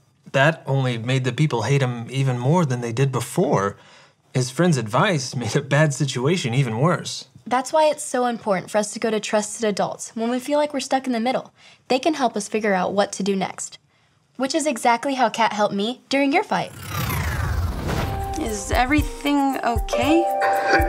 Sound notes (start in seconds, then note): 16.6 scene whooshes